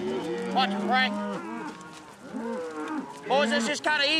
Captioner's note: cattle mooing